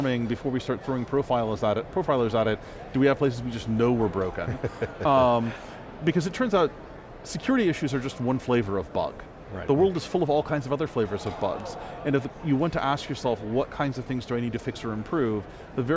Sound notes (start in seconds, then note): 4.4 laughing